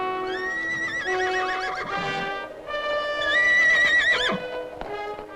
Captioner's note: horse whinnying